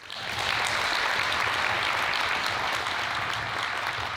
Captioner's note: audience applauding